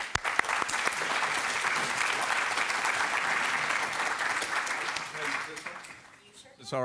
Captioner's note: applause